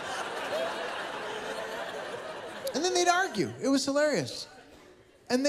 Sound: laughter

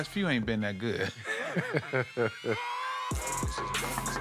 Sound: laughter

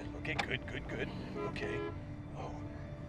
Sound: loud honking

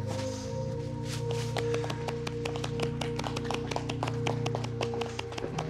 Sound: applause

